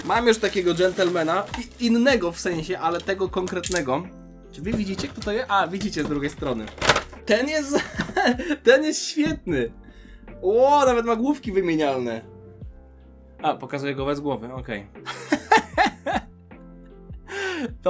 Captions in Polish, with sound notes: mam już takiego gżentlema innego w sensie, ale tego konkretnego. Czy wy widzicie kto to jest? A widzicie z drugiej strony. Ten jest [śmiech] ten jest świetny. O, nawet ma główki wymienialne, a pokazuje go bez głowy. Okej, [śmiech]